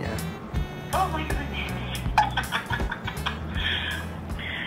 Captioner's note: laughing